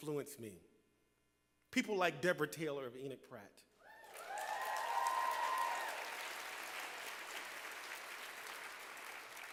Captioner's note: applause